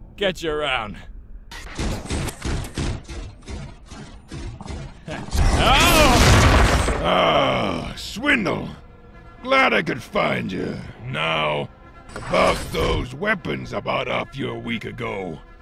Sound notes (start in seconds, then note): 5.5 smirks to himself, then suddenly yelps!